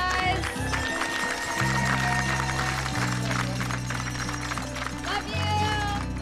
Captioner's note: applause and cheers, noisemakers clanging